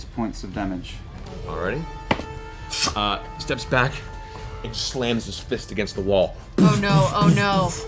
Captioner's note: thudding